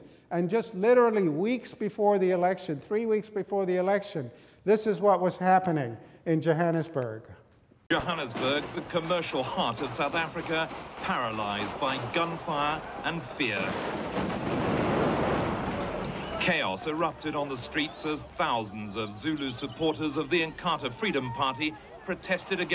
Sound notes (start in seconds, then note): 15.7 explosions